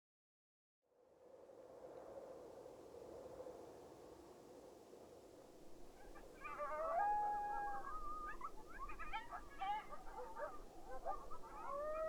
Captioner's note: wind and coyotes yipping